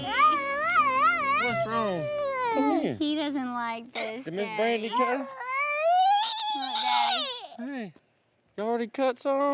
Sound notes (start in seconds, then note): 1.6 crying